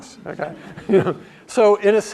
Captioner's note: laugh